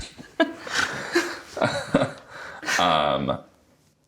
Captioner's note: both laugh